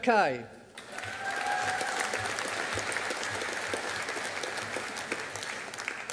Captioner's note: audience applauding